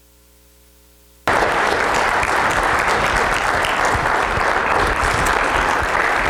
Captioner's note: crowd Applauding